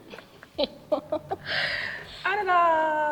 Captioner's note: laughs